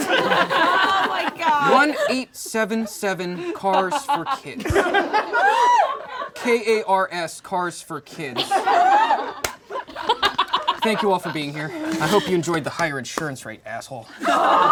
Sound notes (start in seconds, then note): 0.0 all laugh; 5.1 all laugh; 8.2 all laugh; 14.1 all laugh